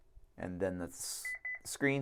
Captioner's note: beeps